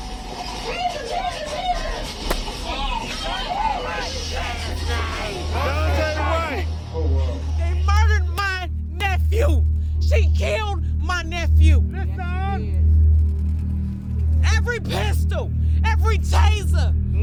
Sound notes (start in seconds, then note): 2.3 gun shot; 3.6 crowd